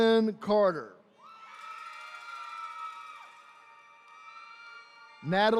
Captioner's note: attendees cheering